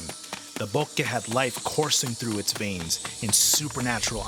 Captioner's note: speaking Spanish